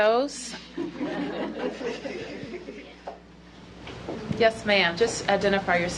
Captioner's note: laughter